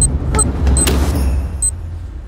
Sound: bomb beep

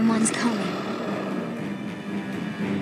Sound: low growling

